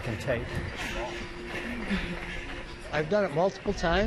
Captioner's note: breathing deeply